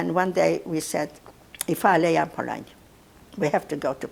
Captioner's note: non-english